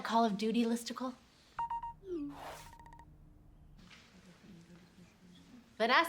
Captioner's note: phone Beeping